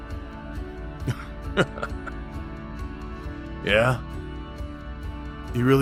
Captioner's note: he laughs a little against your shoulder